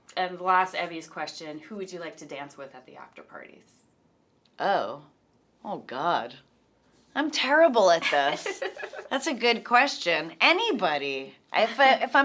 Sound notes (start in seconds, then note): 8.0 laughs